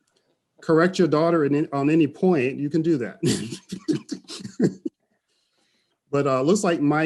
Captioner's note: laughs